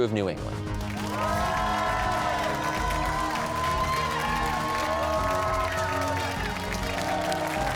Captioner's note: cheers and applause